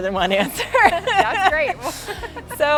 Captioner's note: laughing